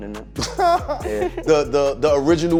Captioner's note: laughing